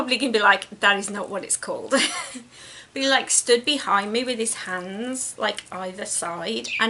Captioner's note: giggles